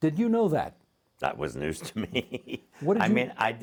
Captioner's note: chuckling